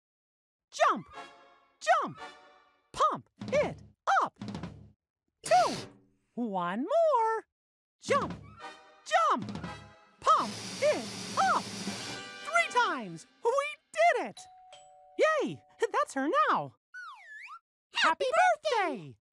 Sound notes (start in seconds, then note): 11.4 fanfare; 14.4 doorbell